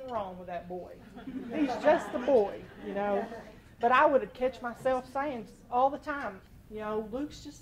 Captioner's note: laughter